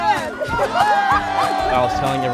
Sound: laughter

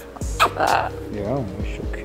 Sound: kiss

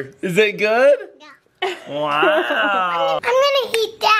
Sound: laughs

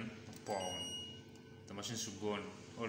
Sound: machine beeps twice

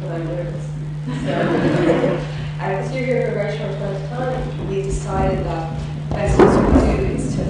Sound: laughs

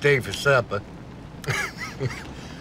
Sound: laughs

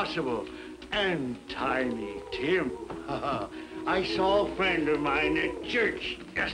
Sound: laughs

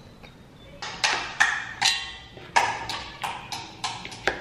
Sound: clatter

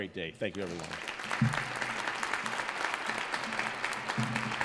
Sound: audience applauds

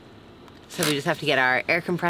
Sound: cranking

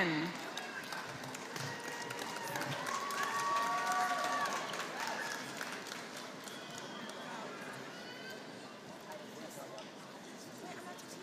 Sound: applause

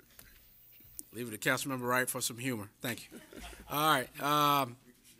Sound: laughter

